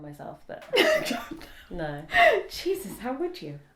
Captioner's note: laughs